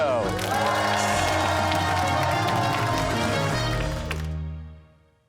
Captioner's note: cheers and applause